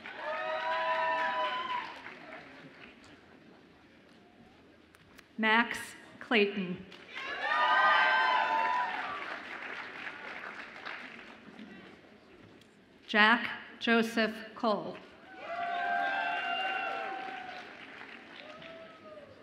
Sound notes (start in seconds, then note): 0.0 audience applauds and cheers; 7.1 audience applauds; 15.2 audience applauds and cheers